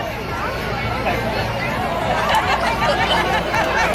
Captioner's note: crowd chatters